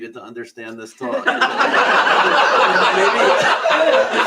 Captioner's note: laughter